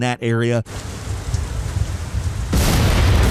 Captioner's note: rain pitter patters; bomb explodes